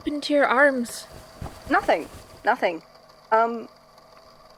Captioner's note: fabric rustling